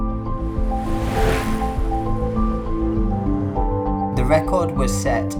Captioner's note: whoosh of wheels